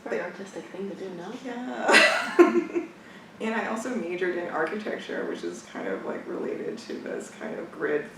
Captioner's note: laughs